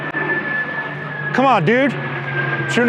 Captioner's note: plane flies overhead